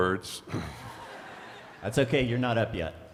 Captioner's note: attendees laughing